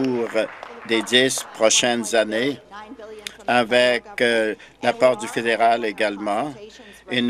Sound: applause

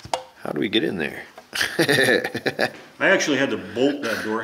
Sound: laughs

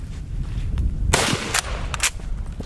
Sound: gun fires

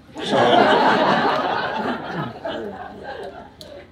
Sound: audience laughs

